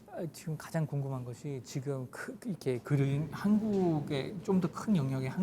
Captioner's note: speaking in Korean